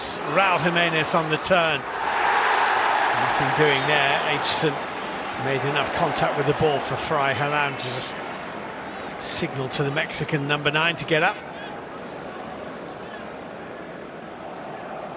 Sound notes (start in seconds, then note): 4.3 audience oohs; 4.9 cheers and applause; 5.5 crowd noise